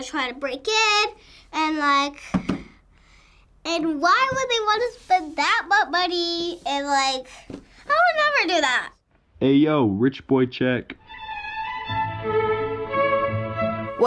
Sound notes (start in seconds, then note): 9.3 voice-over; 11.0 regal classical music